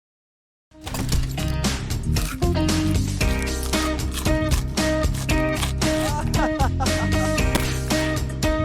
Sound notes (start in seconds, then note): 1.4 upbeat music; 2.5 crunching popcorn; 4.4 upbeat music; 5.7 laughing; 7.6 soft crash